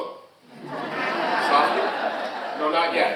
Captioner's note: audience laughing